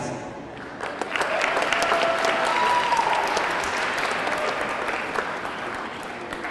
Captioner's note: audience clapping; audience cheering